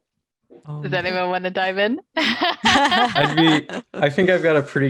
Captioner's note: laughing